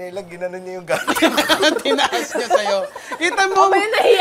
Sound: laughs

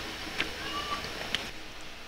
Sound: meow

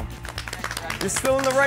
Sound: applause

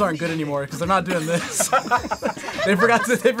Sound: group laughs

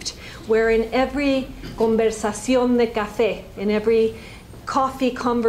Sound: spanish

